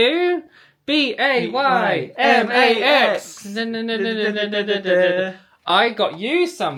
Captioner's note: humming